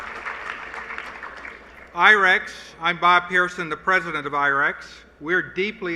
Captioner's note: applause